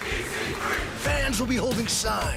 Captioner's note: fans chanting